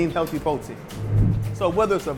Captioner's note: air whooshing